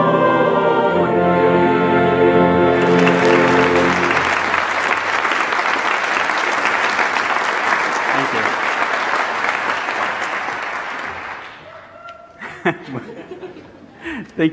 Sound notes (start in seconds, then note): 2.6 audience applauding; 11.6 laughing